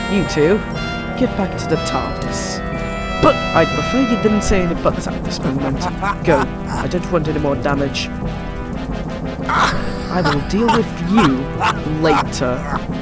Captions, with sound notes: You two, get back to the TARDIS… But- I’d prefer you didn’t say any ‘buts’ at this moment. (THE MASTER LAUGHS) Go. I don’t want any more damage. (THE MASTER LAUGHS) (THE MASTER LAUGHS) I will deal with you later.